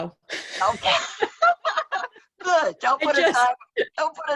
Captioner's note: both laughing